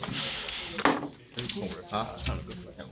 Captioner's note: students murmur